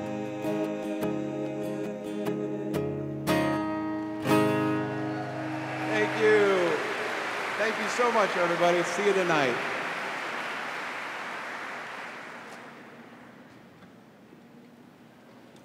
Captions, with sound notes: [APPLAUSE] >> THANK YOU. THANK YOU SO MUCH BE EVERYBODY. SEE YOU TONIGHT.